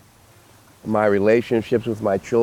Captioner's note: ocean breeze sounds